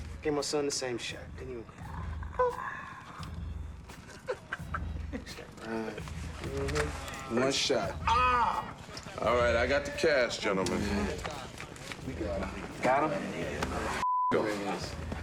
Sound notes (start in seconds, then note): 1.3 winces; 3.6 laughs